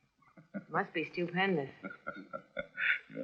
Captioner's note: laughing